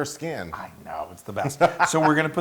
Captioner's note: laugh